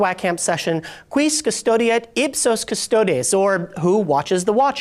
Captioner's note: speaks foreign language